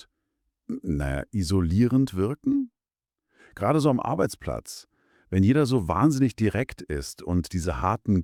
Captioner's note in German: räuspern